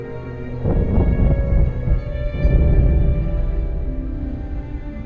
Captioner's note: ominous instrumental music continues; thunder rumbling